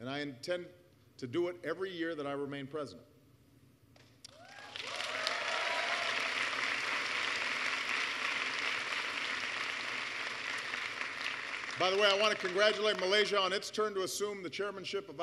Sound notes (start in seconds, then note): 5.9 applause